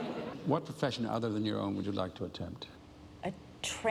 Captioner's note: laughter